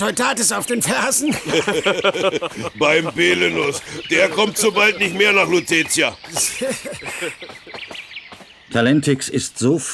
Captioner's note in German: gelächter